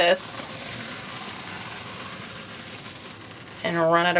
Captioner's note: tool scraping